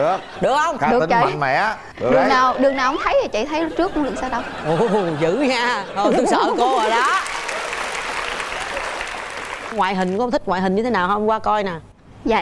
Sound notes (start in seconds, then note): 6.6 applause